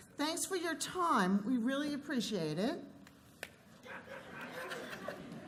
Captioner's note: laughter